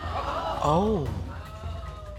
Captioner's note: audience gasps